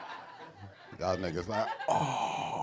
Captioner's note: audience laughing; gasping loudly